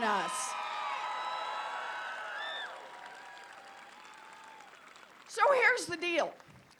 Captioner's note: applause